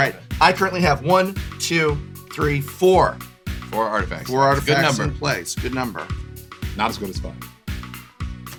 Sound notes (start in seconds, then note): 1.0 counting